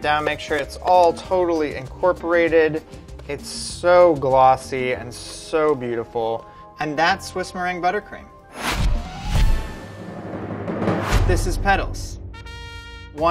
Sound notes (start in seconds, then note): 8.5 whooshing; 12.3 trumpet blares